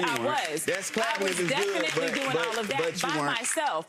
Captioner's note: audience clapping